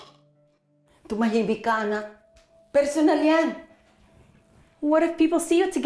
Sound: Criselda speaks Tagalog

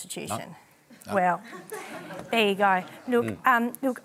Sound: laughter

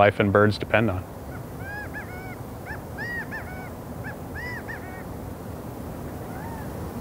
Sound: gambel's quail calling

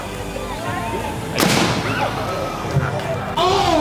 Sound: explosion

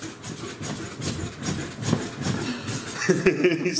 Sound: bedsprings creaking; laughter

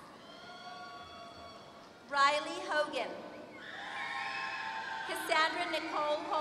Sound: applause

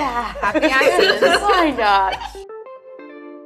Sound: girls laugh

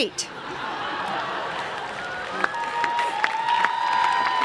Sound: laughter and applause

